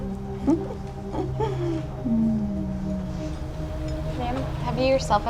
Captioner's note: waitress chuckles